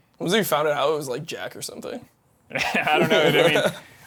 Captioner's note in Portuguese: risos